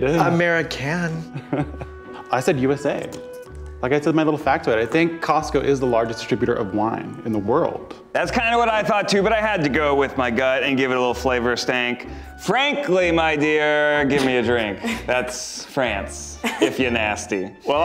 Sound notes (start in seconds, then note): 1.2 giggling